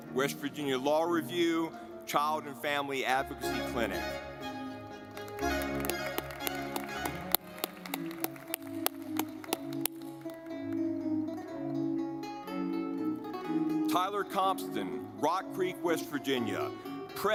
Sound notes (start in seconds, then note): 4.5 lively music; 5.0 audience clapping